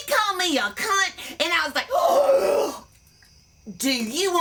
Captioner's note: gasp